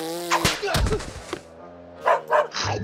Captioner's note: dog barks